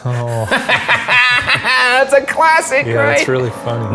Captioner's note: laughing